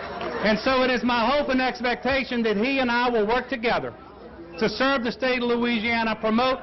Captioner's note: cheering